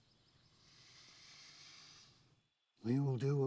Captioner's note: Crow breathes deeply